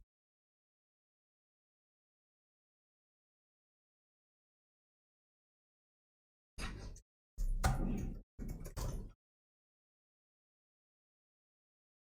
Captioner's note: blank Audio